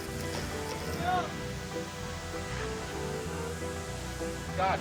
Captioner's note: man shouts